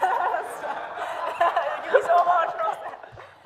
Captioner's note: laughs; audience laughs